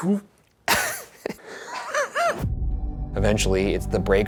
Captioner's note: Ryan and Shane laughing